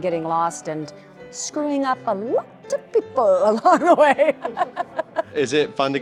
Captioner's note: laughs